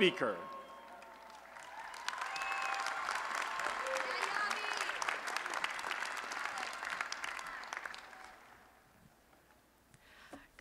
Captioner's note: applause and Cheering